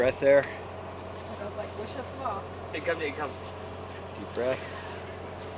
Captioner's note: crew chattering; deep inhaling